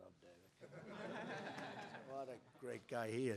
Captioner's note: laughter